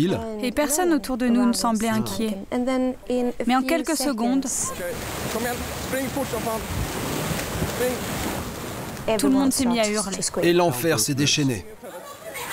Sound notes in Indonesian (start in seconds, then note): 4.6 suara gelombang tsunami